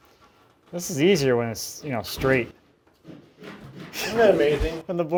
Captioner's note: laughs